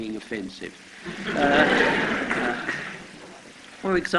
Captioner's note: laughter